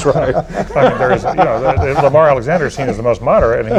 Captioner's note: laughter